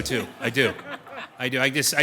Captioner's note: audience laughing